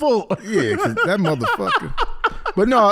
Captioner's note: laughing